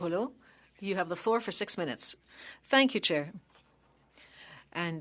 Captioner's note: speaking French